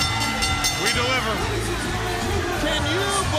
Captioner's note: bell ringing